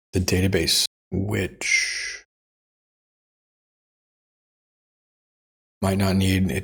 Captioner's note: silence